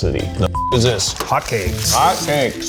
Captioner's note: beep